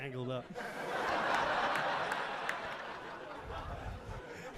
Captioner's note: audience laughing